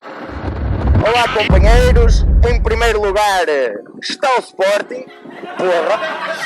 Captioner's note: laughs